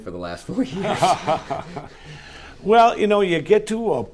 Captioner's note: laughing